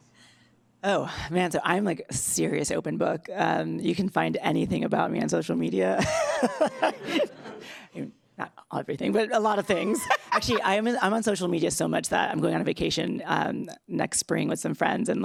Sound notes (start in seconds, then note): 6.1 laughs loudly